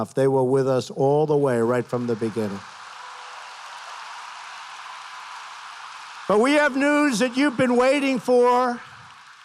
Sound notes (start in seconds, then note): 1.4 applause